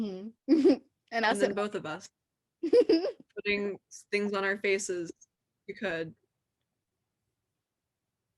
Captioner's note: chuckle